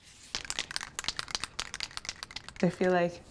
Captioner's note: paint cans rattling